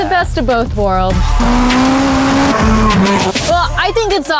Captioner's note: engines roaring